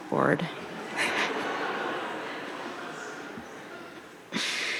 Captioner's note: audience laughing